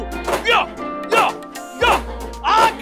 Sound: shouting

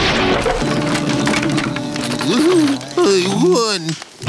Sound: groaning

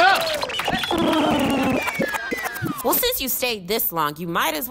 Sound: electric puttering

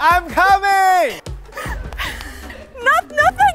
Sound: panting

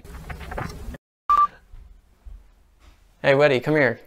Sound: beeping

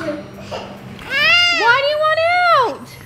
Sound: whining

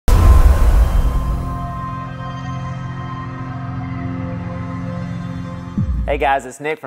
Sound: sound effect

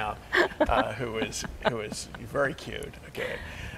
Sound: both laughing

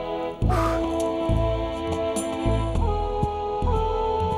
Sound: blowing

